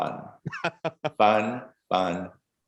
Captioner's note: chuckles